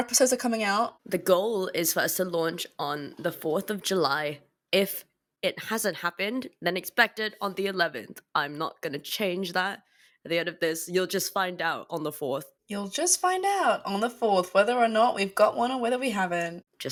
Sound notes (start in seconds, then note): none